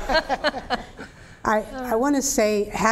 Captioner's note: laughter; laughter